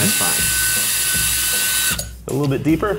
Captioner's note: drill whirring